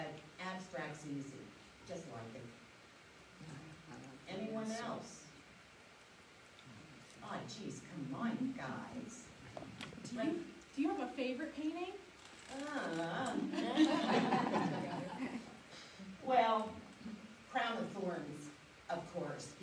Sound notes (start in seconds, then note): 12.9 whines followed by laughing